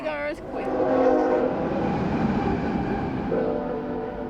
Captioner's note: train sounding